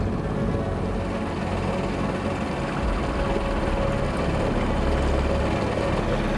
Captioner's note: engine chugging; somber synth music